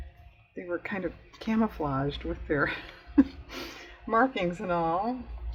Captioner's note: laughs